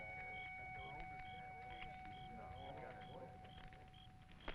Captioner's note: crowd chattering